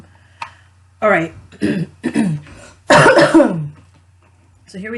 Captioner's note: clears throat and coughs